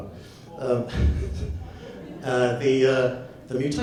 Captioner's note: audience laughs